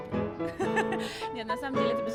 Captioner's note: laughter